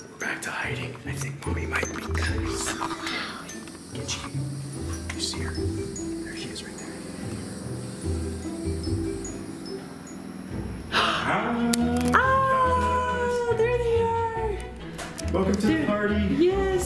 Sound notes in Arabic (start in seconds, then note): 10.9 الشهقات